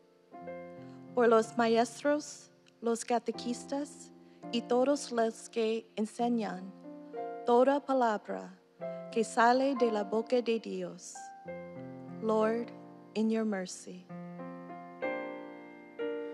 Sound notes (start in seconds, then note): 2.6 speaking non-english